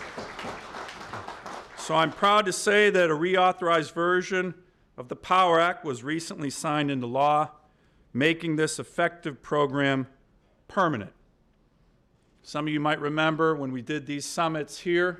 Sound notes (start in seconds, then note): 2.1 applause